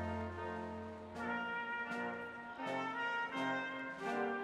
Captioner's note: none